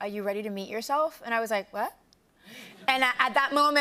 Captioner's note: laughter